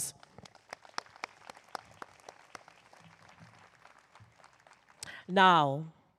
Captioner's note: applause